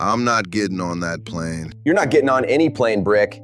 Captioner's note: flatly